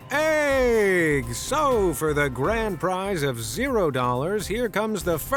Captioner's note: in a ‘Game Show Host’ voice